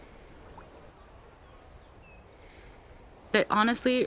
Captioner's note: birds chirp